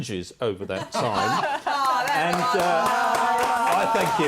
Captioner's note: laughter